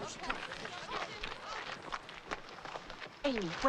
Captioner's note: none